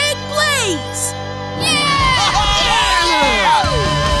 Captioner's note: cheering